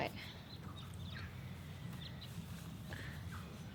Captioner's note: birds chirping